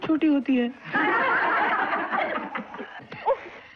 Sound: laughing

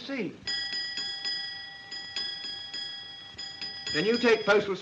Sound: bell dings repeatedly

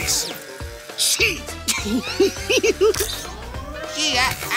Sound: laughing

